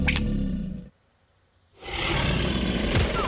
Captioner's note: growling